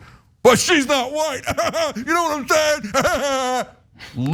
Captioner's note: laugh